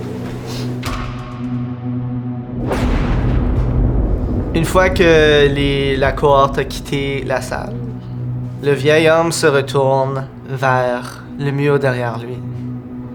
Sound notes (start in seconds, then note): 0.1 door closes; 2.5 thunderclap